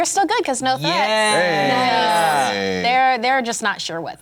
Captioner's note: cheering